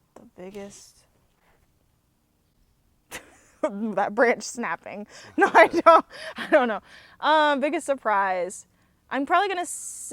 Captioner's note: laughs